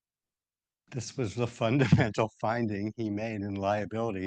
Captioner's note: laughs